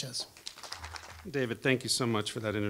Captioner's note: applause